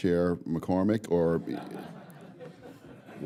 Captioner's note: laughter